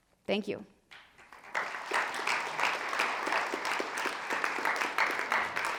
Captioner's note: attendees applauding